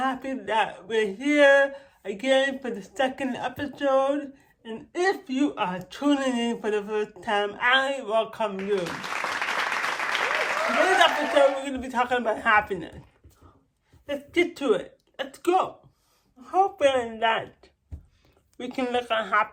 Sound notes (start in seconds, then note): 8.5 applauds